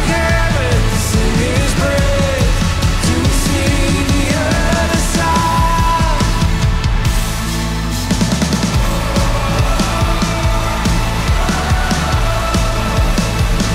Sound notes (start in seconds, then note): 8.4 crowd